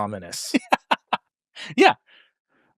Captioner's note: laughs